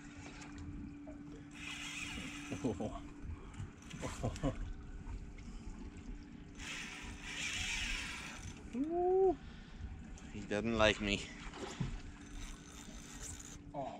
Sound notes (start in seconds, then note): 1.5 fishing pole reel unwinding; 6.5 fishing pole reel unwinding; 11.2 splash